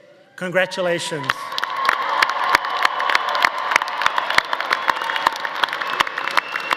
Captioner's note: audience cheering; audience applauding